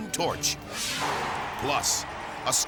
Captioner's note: graphic swishes; crowd cheering